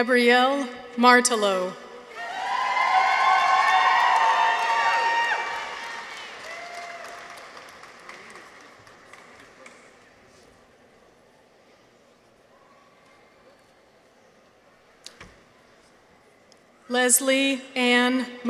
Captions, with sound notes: Gabrielle Martello. -(people cheer) -(audience applauds) Leslie Ann McCoy.